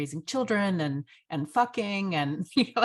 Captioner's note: chuckles